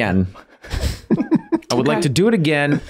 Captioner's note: Rob and Charlie laughing